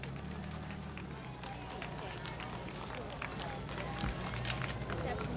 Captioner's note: camera shutters clicking